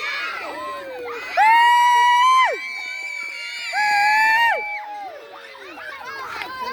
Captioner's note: cheering and screaming